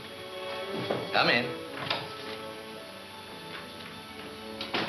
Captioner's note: door clunking